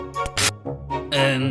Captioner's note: bzzt